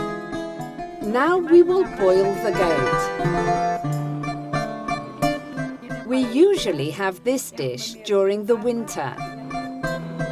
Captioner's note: speaking Greek